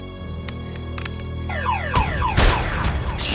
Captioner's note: alarm siren blares